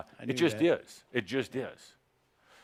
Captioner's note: none